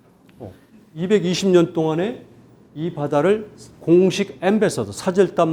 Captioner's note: speaking in Korean